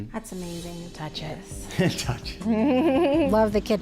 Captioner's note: laughs